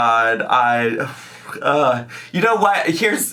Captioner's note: groans